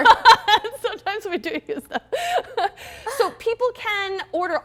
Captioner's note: laughing